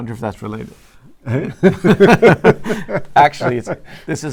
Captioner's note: laugh